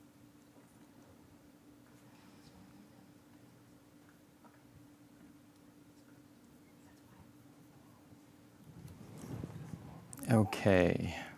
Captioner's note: background chatter